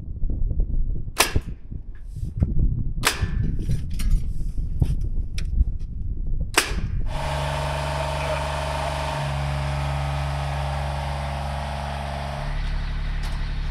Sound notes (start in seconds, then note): 1.2 nail gun firing; 7.0 machinery humming